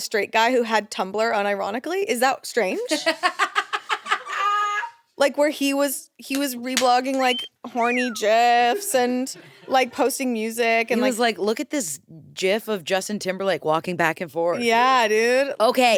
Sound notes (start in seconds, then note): 2.9 laughs